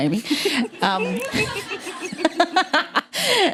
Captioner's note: laughter